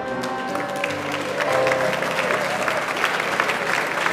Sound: audience applauds

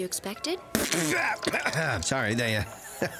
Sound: splutters, coughs

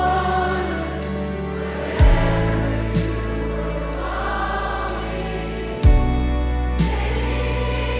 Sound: crowd

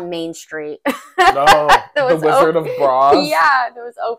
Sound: laugh

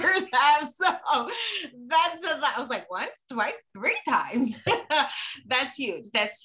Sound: chuckling

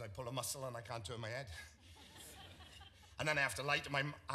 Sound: audience laughs

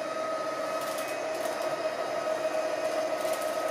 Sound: motor whirring

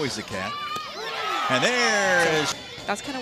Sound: cheering

